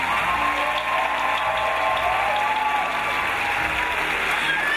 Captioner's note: crowd applauds